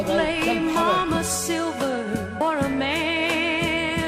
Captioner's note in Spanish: hombre en su idioma